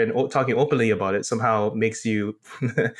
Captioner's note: laugh